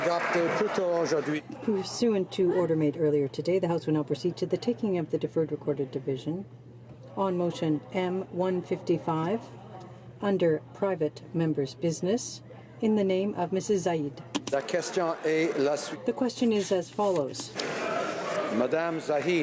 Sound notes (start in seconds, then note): 9.0 speaking French